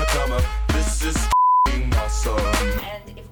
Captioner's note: beeps